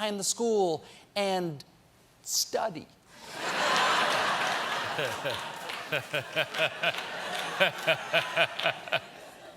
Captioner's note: laughter